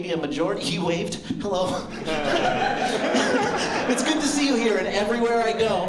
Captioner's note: laughter